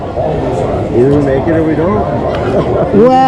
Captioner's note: laughing